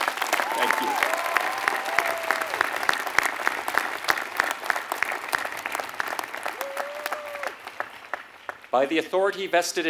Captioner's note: applause